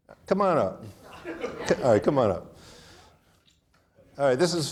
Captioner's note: audience laughing